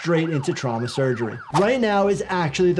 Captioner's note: siren wailing